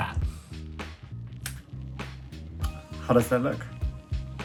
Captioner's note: snaps fingers